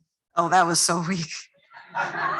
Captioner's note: laughter